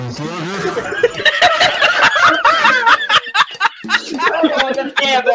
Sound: laugh

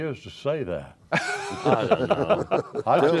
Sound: laughter

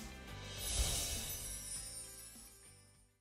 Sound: bright music; sparkles chiming

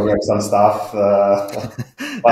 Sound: laughing

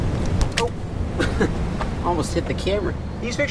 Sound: laughs

